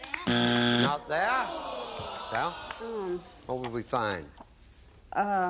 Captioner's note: buzzer